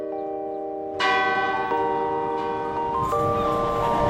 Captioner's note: clock tower chimes; streetcar rattles on tracks